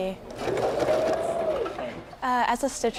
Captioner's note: sewing machine whirs